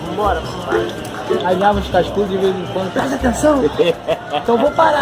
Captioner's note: giggling